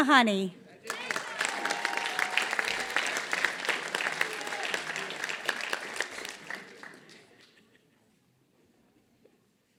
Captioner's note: applause